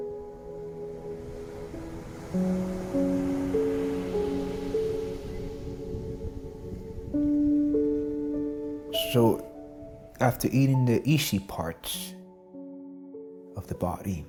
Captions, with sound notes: (gentle music continues) (waves crashing) So, after eating the easy parts of the body,